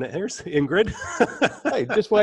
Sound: laughter

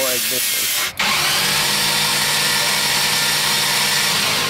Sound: motor revving

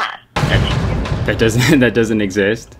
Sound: metal slamming

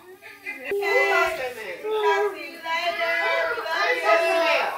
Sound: people talking

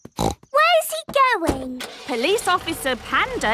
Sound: snorts

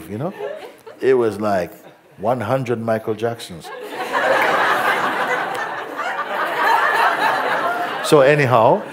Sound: laughter

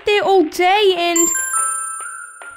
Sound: ding!

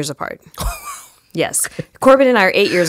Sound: laughs

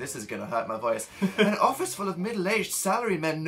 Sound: reads in his normal voice again

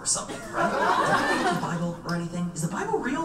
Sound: audience laughs

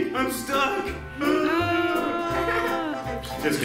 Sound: groans

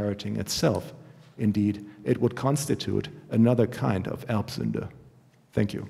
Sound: german

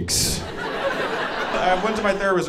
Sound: audience laughing

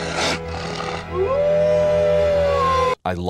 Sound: growling; Oz howl

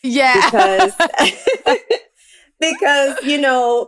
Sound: laughs

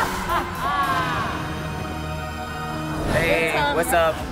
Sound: laughs evilly

